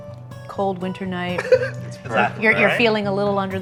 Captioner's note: laughs